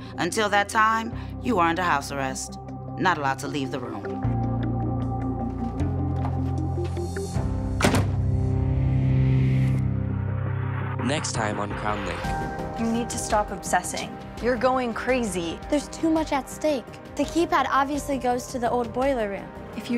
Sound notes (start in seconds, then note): 4.8 tense music; 7.7 door closes